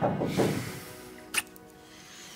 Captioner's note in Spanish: toques en la puerta